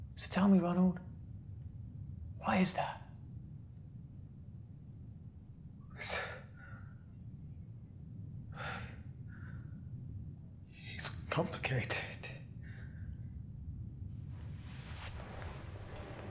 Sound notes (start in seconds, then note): 6.2 Ronald stammers; 9.0 sighs